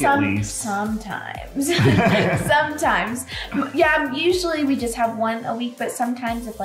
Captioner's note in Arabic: يضحك